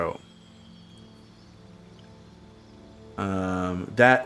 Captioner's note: silence